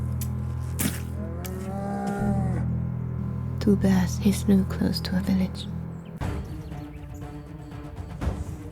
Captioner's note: bear screams